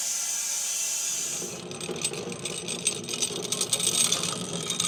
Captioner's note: saw chassis rattling